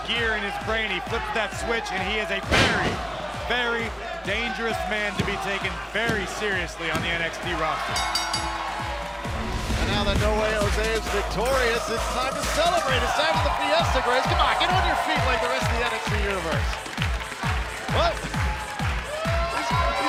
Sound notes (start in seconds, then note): 7.9 bell ringing